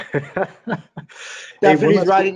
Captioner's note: laughing